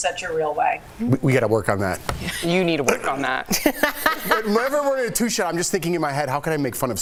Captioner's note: laughter